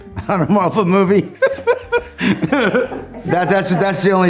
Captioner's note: laughs